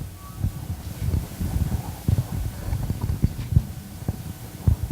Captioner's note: microphone feedback